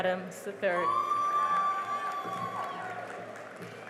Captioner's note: cheering and applause